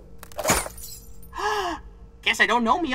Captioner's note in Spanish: ¡gasp!